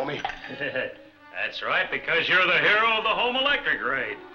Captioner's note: laughs